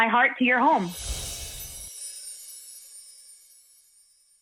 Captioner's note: swishing and chimes